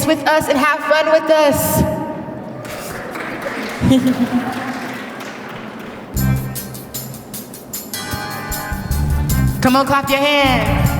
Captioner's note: applause